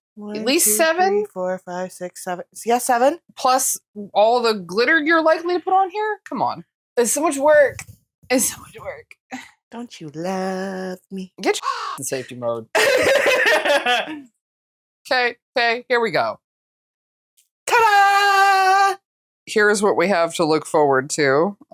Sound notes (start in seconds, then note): 11.6 caw